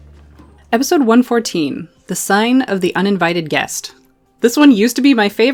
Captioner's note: loud thump